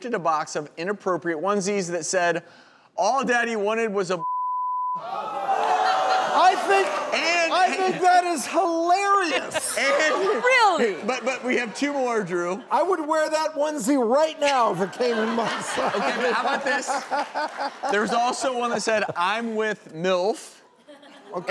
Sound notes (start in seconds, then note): 4.2 beep; 5.1 audience gasps; 14.9 laughing